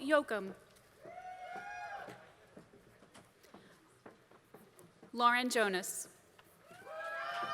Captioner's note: applause